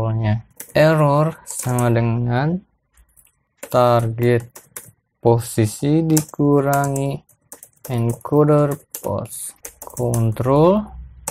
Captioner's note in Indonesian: typing code